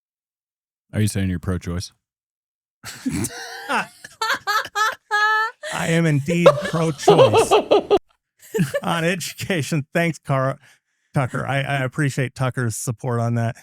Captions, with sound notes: Are you saying you're pro-choice? (Laughing) I am indeed on education. Thanks, Cara Tucker. I appreciate Tucker's support on that.